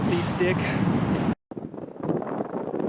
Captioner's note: wind